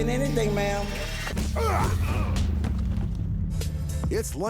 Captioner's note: fighting grunts